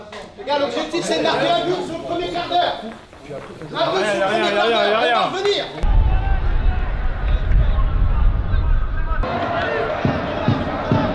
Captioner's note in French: acclamation